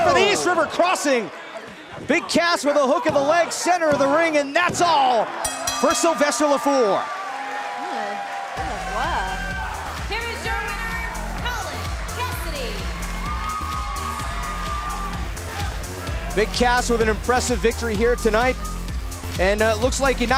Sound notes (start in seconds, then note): 5.3 bell ringing; 13.7 cheers & applause